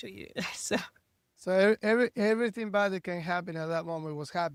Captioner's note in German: lacht